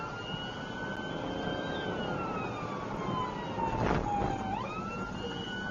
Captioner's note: engine accelerating